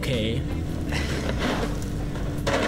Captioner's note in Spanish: risas